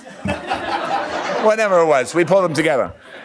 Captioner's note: laughs